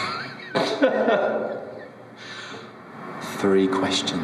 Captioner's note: laughs behind camera